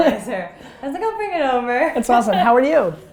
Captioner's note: laughs